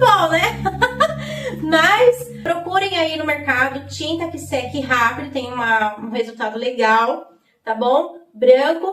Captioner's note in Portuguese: risadas